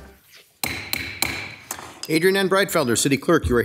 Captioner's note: gavel bangs